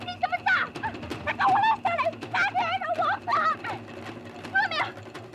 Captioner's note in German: Tibetisch